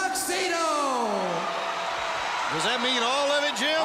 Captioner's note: crowd cheering